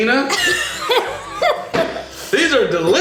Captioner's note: laughter